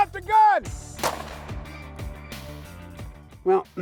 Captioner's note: gun shot